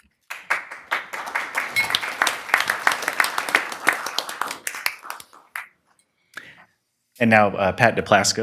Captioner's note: applause